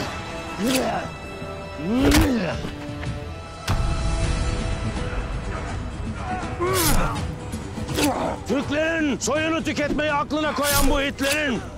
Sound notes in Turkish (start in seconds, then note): 0.2 Vuruşma sesleri; 3.3 Kılıç sesleri